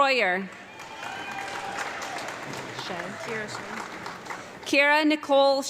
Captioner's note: audience clapping